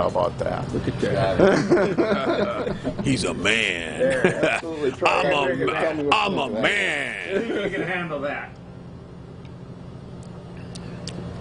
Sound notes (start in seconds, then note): 3.4 laughing; 6.6 laughing